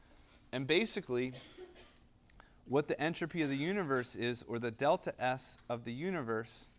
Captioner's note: cough